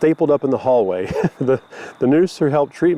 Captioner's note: laughs